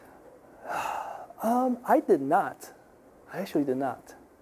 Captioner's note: sighing